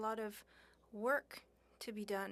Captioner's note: speaking French